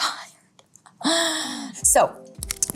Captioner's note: Dove gasping